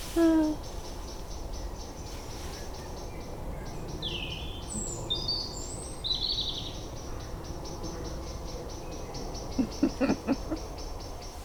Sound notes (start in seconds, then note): 0.0 giggling to self about god knows what; 0.2 evening birds